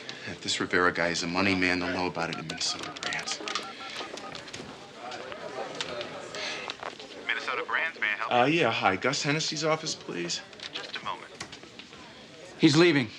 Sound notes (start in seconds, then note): 3.5 dialing; 5.2 ring tone